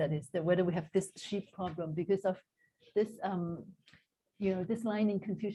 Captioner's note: non-english